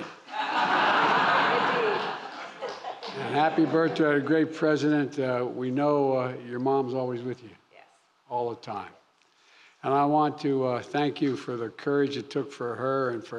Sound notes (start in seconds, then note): 0.0 applause; 0.2 laughter; 0.3 laughs